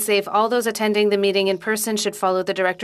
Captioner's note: speaking French